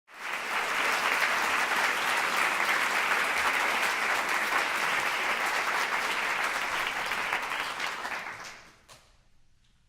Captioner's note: applause